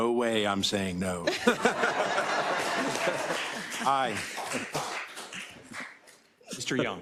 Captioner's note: laugh; applause